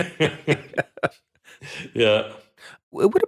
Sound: group laughing

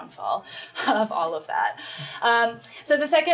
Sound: laughs

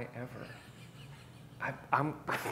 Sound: chuckles

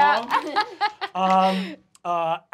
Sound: laughing

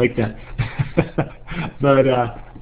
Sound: laughs

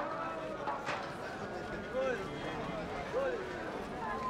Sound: crowd bustling

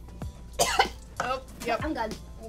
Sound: coughs

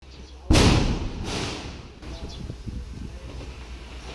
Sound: bomb exploded

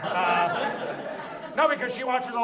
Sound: audience laughs

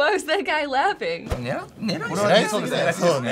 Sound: speaking Japanese

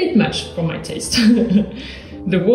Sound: laughs

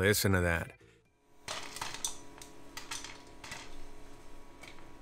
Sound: kernels popping

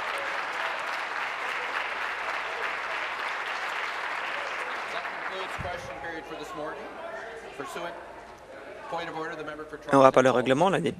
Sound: applause

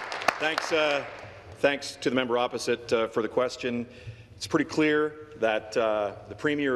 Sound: applause

